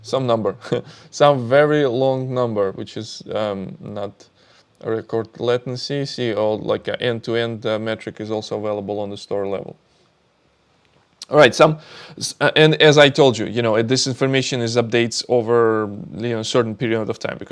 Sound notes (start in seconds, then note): 0.6 chuckles